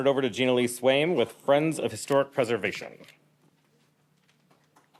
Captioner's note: applause